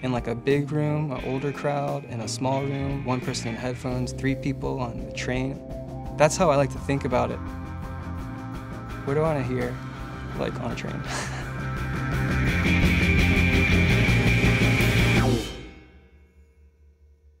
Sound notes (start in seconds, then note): 11.0 chuckles; 12.2 music intensifies